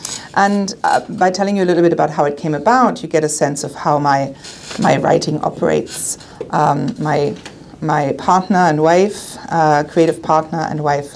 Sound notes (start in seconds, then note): none